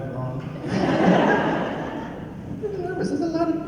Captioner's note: laughs